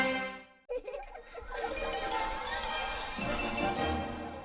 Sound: kids laughing as music plays

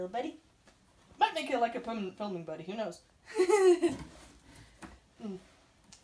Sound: laugh

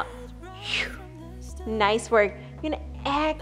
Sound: exhales

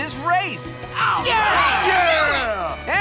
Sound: cheering

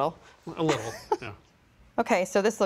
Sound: laughs

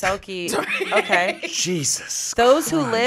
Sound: laughs

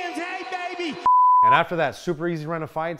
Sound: beep

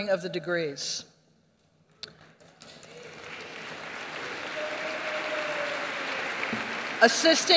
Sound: applause

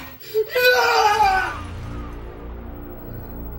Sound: screams

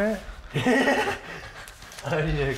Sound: laughter

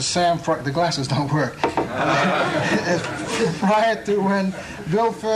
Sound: laughter

